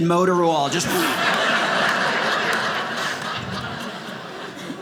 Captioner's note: audience laughing